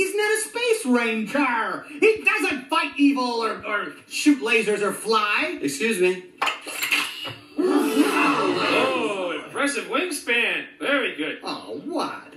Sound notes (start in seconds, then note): 8.3 toys gasp